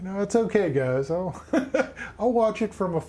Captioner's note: chuckling